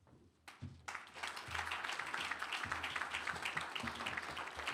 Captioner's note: applause